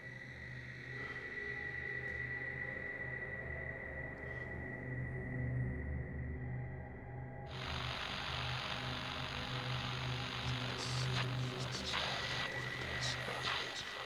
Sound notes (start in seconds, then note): 7.5 static